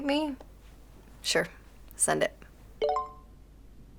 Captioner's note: computer chimes